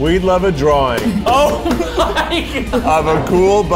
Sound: laughing

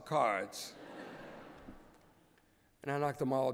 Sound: laughter

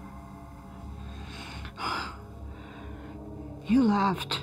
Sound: gasping

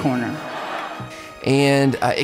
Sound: crowd laughs

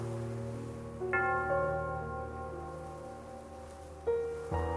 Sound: bell dings

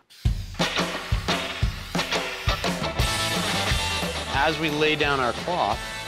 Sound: spraying

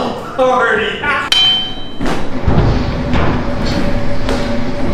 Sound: crowbar clangs

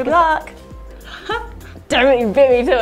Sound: chuckles

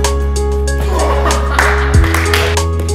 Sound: clap

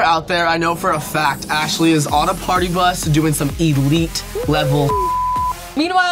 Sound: beep

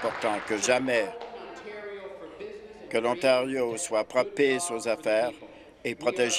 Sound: applause

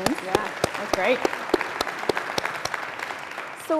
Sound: applause

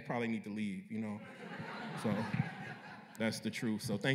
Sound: laughter

